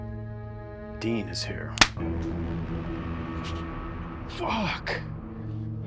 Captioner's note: hand slaps